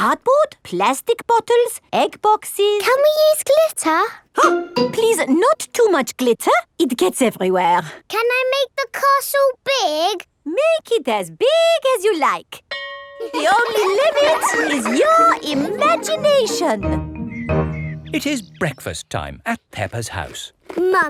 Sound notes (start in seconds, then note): 12.7 school bell rings; 13.2 children laughing